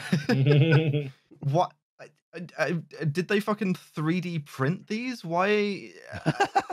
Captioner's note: laughter; stammers; laughs